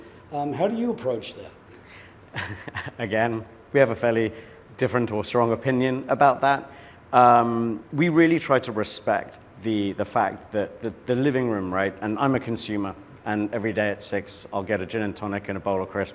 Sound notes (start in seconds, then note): 2.3 laugh